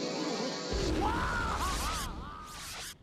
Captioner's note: Sylvester yelling